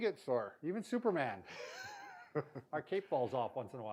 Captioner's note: laughs